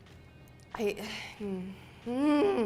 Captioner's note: sighs; groans